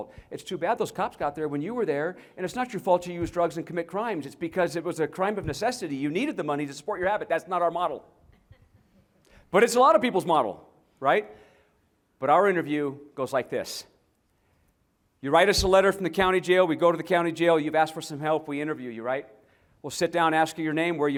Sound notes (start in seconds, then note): 8.3 laughter